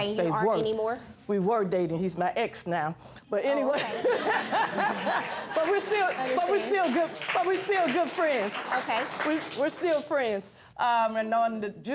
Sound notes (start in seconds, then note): 3.6 laughs; 4.5 stammering